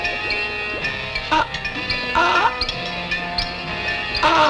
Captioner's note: gagging